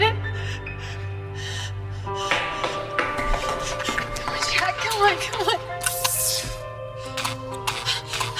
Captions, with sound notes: - He did it. (footsteps thudding) Jack, come on, come on.